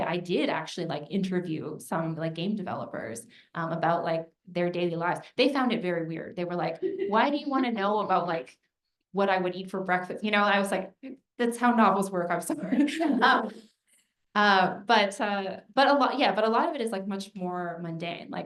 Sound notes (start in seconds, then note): 12.6 laughter